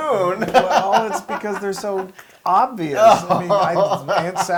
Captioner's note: laugh